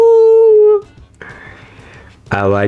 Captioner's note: inhales Oxygen